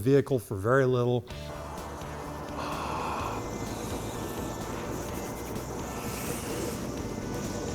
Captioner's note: upbeat music; fire roaring